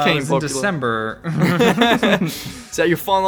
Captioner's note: both Laugh